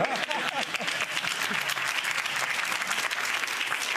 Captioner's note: audience applauding